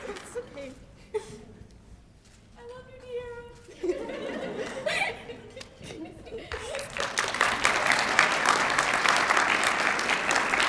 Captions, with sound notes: It's OK. I love you, Diara. [LAUGHTER] [APPLAUSE]